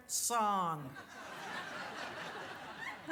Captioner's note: audience laughs